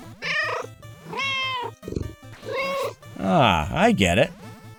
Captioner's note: meow